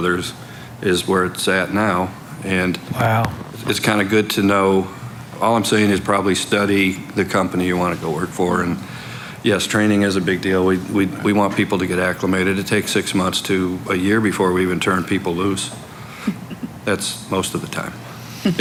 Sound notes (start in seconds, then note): 16.1 giggling